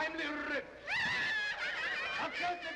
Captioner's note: women laughing